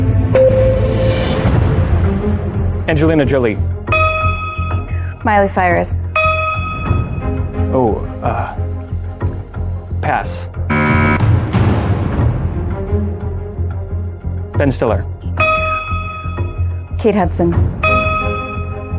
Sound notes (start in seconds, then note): 10.7 buzzer sounds